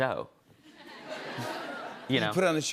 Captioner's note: laughter